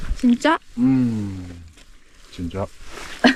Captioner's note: satisfied sound